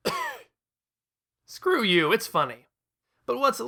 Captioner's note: cough